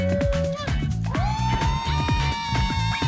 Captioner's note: cheering